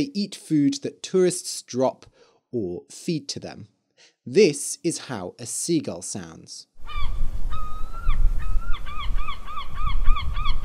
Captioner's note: seagull sound